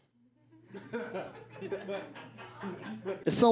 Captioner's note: audience laughs